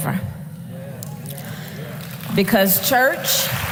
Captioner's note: applause